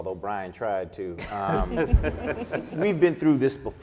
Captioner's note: laughing